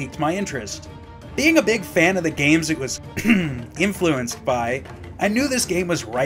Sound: ahem

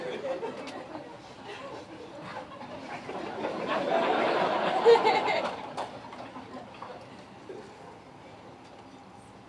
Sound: laughter

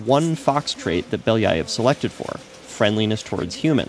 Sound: speaks foreign language

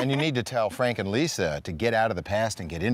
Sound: laughing

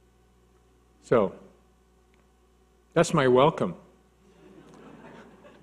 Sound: laughs

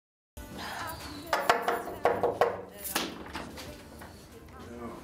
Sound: knocking on door

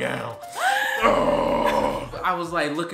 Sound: laughing; grunts

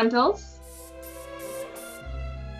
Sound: airbrush spraying; peaceful music

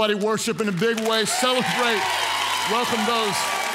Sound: congregants cheer; claps

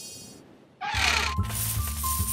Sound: hinges creak; coins jingling

